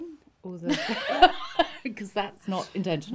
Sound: laughs

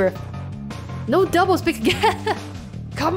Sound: laughs

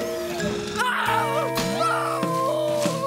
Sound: screaming

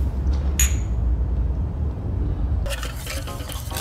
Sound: glasses clink

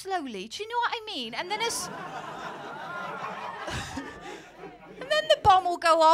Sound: laughter

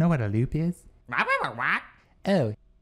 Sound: agitated squawks

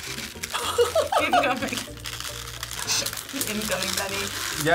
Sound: chuckle

